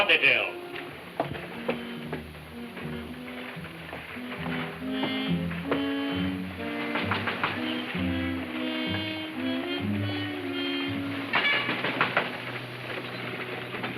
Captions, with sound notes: When that gold rush starts it doesn't matter what they tell. (ominous music playing) (knocking on door)